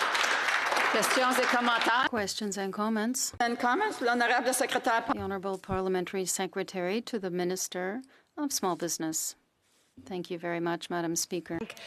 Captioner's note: applause